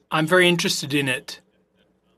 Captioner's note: speaking French